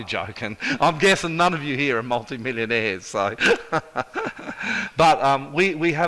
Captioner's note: laughs; laughs